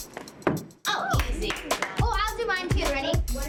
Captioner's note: applause